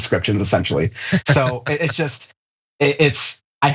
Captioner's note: laugh